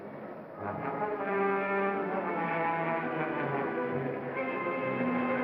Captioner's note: suspenseful music; wind blows; suspenseful music